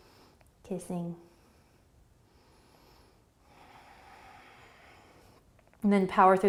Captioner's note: breathing